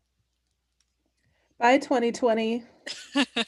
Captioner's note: laughs